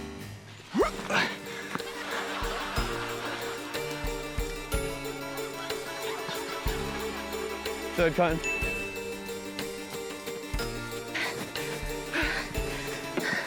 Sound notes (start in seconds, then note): 9.2 ding!